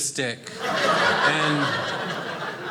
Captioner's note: audience laughing